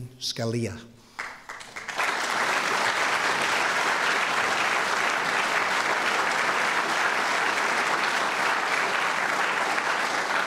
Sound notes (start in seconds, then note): 2.8 applause